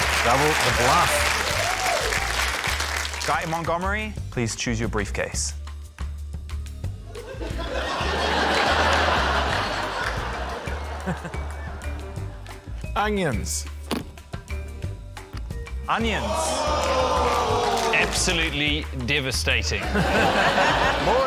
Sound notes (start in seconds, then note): 7.1 laughter; 16.0 audience exclaims; 19.8 laughter; 20.2 audience whoops